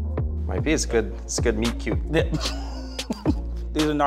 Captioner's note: laughing